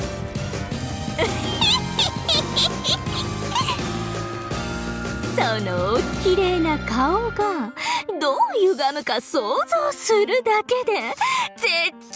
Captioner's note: giggle